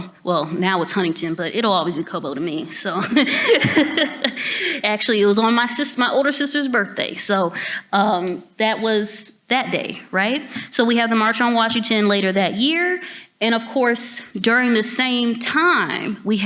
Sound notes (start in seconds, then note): 3.1 laughs